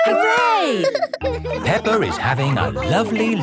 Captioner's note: all laughing